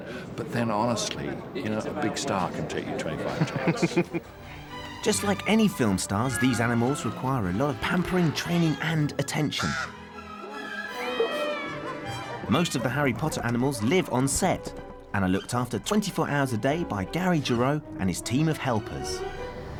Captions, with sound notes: But then, honestly, you know, a big star can take you 25 takes. [CHUCKLES] Just like any film stars... ...these animals require a lot of pampering, training and attention. [MEOWS] Most of the Harry Potter animals live on set... ...and are looked after 24 hours a day by Gary Gero and his team of helpers.